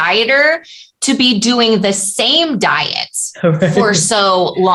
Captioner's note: laughter